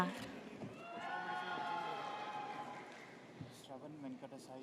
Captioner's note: audience cheers